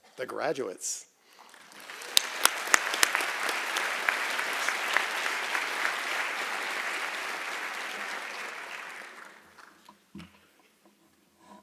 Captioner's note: applause